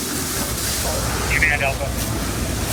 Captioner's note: water spraying; fire whooshing